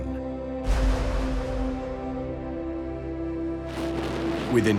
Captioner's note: gunfire